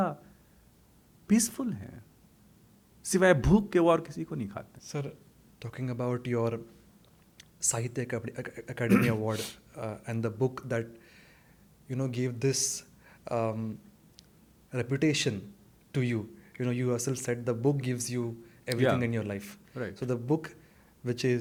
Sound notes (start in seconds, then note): 8.8 clears throat; 11.3 snorts